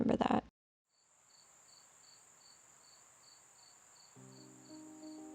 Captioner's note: insects harmonizing skillfully